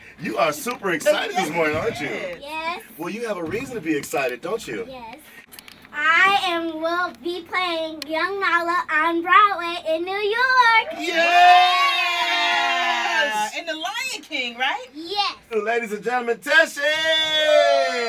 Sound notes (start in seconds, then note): 13.3 cheering